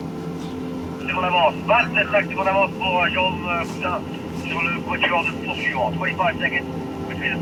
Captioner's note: man speaking foreign language over radio